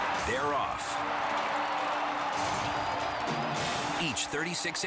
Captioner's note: crowd cheering